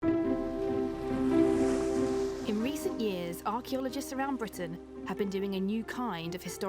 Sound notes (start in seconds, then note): 3.1 gentle music; 4.0 waves sloshing